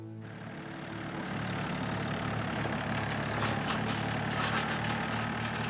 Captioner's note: tractor rumbling